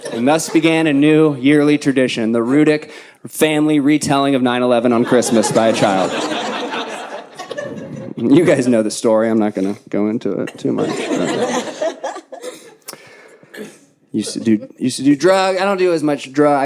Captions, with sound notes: He must have began a new yearly tradition. The Rudek family retelling of 9-11 on Christmas by a child. (audience laughing) You guys know the story. I'm not gonna go into it too much. (audience laughing) Used to do drug. I don't do as much dry